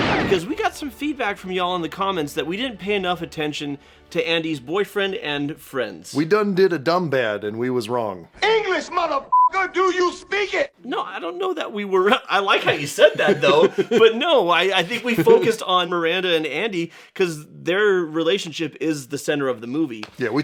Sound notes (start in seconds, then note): 9.3 beeper